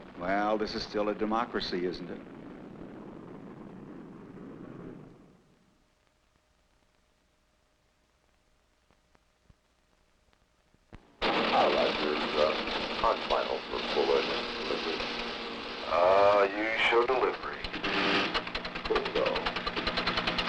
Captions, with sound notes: Well, this is still a democracy, isn't it? (machine buzzing and clacking) (distorted radio warbling)